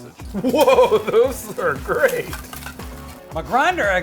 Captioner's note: laughing